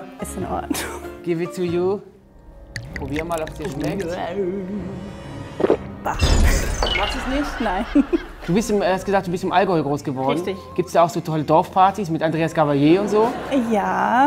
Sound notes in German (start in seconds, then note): 2.0 Bedrohliche Musik; 5.6 Schlucken; 7.1 lacht